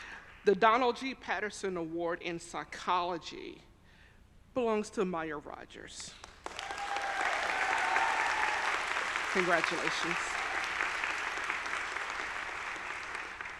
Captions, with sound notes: The Donald G. Patterson Award in Psychology belongs to Maya Rogers. (audience applauding) (audience cheering) Congratulations.